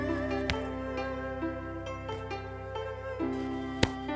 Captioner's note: arms slapping